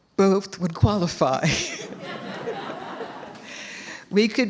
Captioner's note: laughter